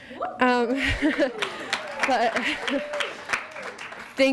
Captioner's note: audience clapping